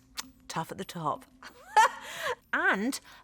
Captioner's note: chuckles